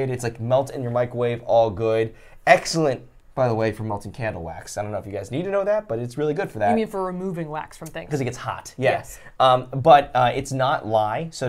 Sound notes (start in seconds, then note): none